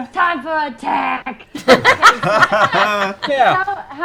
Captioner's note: laughter